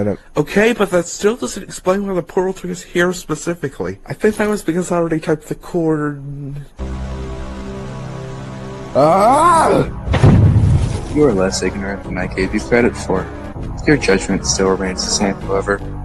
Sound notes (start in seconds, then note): 10.0 boom